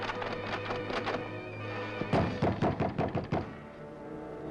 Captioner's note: banging at door